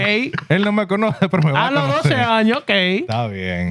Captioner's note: speaking Foreign Language